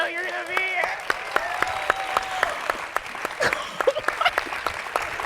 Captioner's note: audience cheering and applauding